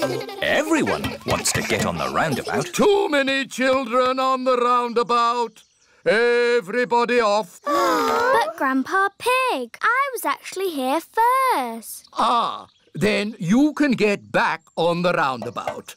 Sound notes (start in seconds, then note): 7.6 kids groan